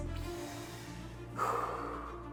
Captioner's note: exhaling; inhaling deeply